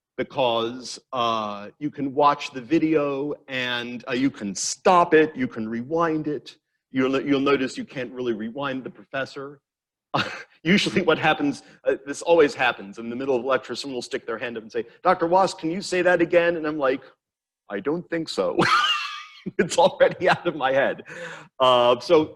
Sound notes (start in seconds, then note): 18.5 laughs